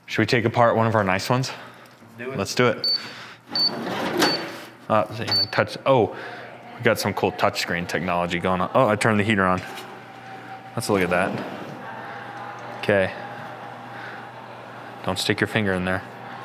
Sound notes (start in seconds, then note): 3.5 machine beeping